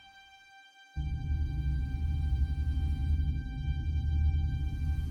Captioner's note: executioner breathes deeply